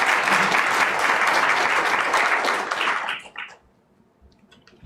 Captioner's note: applause